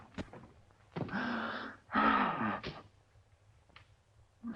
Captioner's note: groans